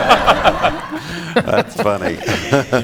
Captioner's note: laughter